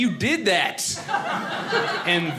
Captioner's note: audience laughing